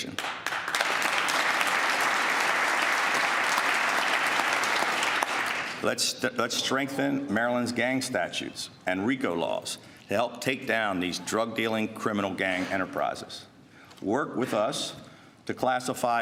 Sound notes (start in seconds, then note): 5.6 applause